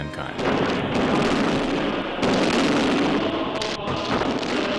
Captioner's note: explosions booming